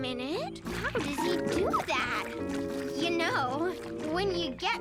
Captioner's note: nose squishing